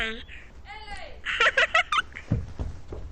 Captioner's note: doll giggles